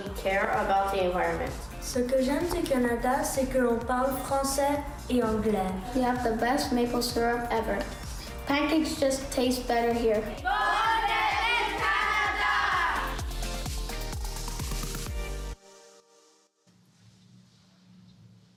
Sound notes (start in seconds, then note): 8.8 speaking French